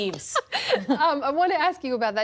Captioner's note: laughter